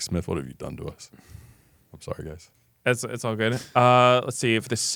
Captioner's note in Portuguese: risos